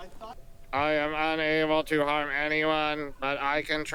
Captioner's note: robot voice